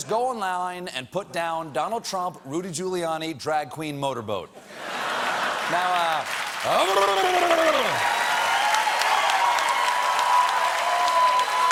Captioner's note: cheers and applause